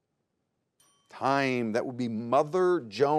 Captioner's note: bell dings